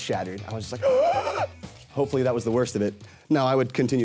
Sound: gasping

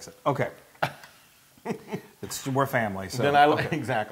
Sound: laugh

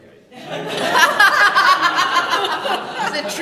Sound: laughter

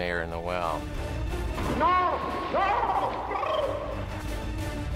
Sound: man gurgling

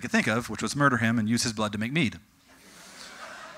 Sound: audience: Goofy giggling

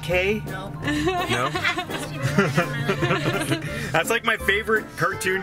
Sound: laughing

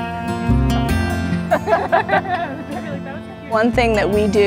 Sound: laughter

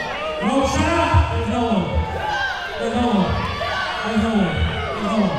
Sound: crowd yelling

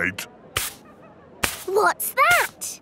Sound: brushing

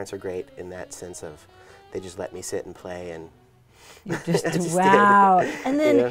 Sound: laughs

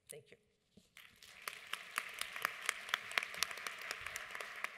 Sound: audience applauds

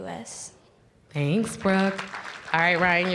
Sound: applause

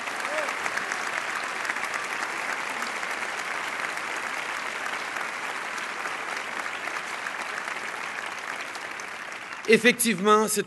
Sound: applause

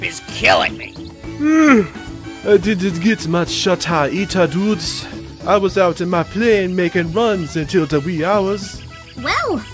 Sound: yawn

